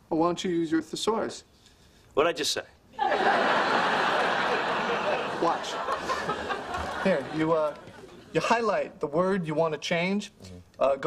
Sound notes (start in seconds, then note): 3.0 laugh